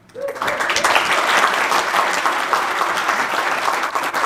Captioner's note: audience applauding